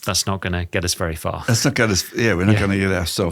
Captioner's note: chuckles